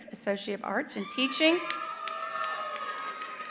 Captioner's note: attendees applauding